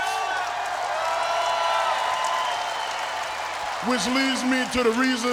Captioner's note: crowd cheers and claps